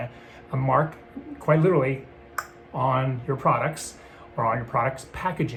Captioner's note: snaps fingers